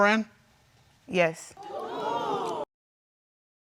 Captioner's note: audience gasps